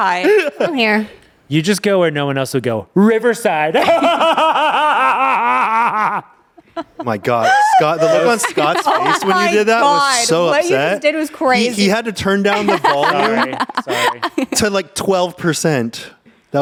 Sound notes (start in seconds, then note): 3.8 laughs